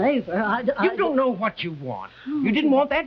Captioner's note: Veta stammering